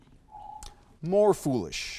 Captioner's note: alarm echoes